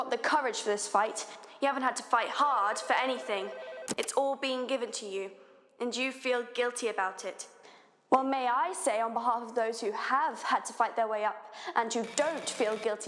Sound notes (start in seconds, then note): 2.5 telephone ringing; 3.9 click; 12.0 synchronous typing